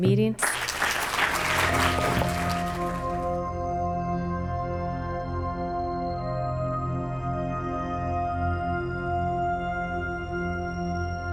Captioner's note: applause